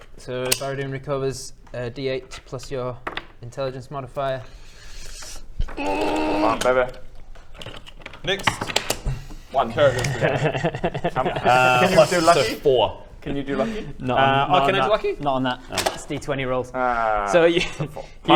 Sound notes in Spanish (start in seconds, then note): 5.8 OoorrRRrrrrRrRrrr